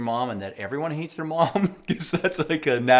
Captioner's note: laughs